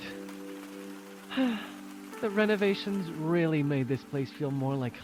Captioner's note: happy sigh